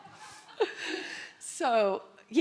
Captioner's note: audience laughing